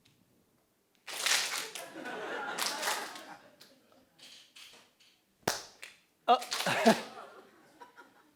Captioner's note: laugh